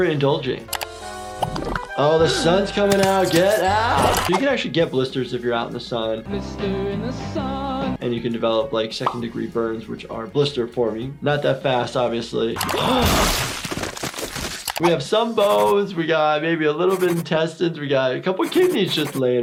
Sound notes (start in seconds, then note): 0.2 enchanting flute music; 0.2 keyboard clicking; 6.3 lively music; 12.7 Lumpy exploding; 12.7 gasps; 12.7 bones falling; 15.4 pen scratching